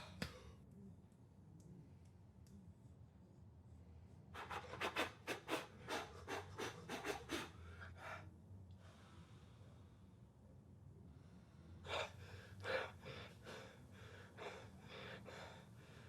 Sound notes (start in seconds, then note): none